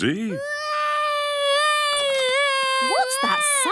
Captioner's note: baby wailing